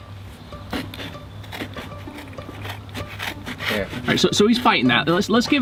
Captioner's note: scraping sounds